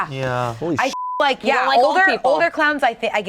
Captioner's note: beep